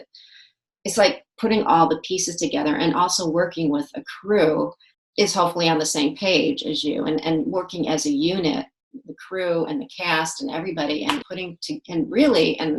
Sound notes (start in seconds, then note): none